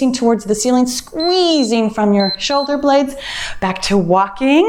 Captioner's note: timer beeps